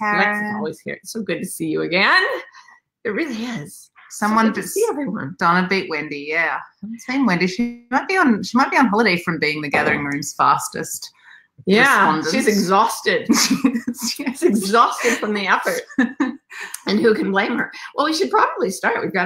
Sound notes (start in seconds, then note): 13.3 laughs